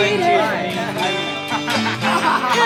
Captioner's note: laughs